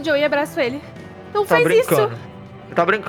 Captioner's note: crying